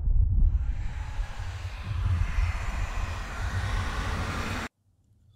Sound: eerie sound, slowly rising louder; silence

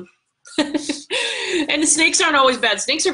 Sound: chuckling

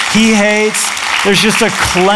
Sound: applause

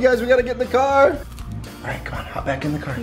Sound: bread crunching

